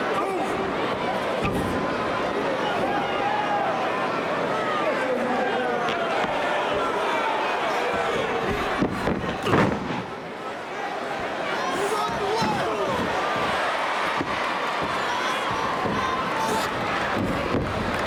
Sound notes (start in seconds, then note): 7.3 crowd chattering; 7.3 punches thudding